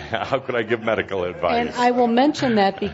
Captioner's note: chuckling